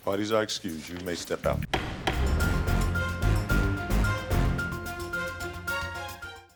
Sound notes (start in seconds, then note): 1.6 dramatic music; 1.7 gavel bangs